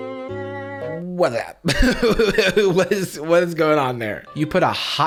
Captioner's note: music; laughs